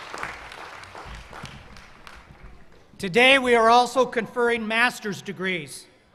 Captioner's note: cheers and applause